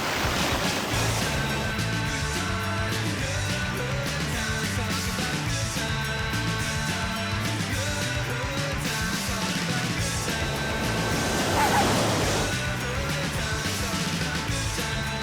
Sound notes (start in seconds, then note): 10.8 arf arf